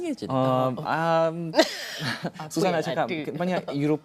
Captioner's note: laugh